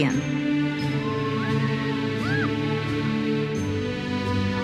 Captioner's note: audience member cheers